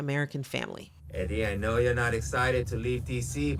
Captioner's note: soundbite of tv show, "fresh off the boat"